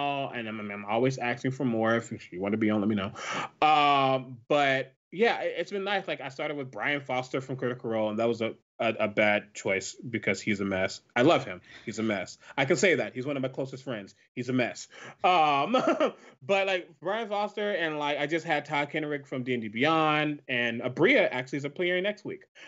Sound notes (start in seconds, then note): 14.9 laughs